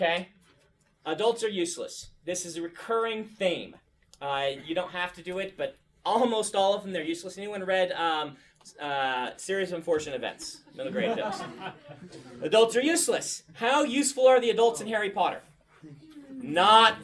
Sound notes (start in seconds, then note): 10.4 students laugh